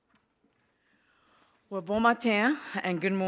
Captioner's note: speaking Indigenous language